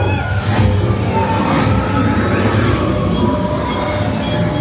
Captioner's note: Lightcycle run puffs; Lightcycles whir